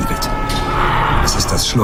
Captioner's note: screams